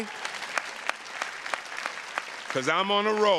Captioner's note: audience applauding